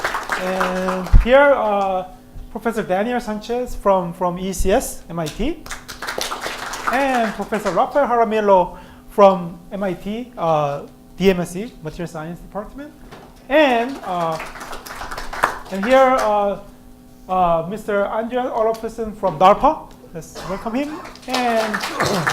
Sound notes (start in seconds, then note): 5.6 applause; 13.8 applause; 20.8 applause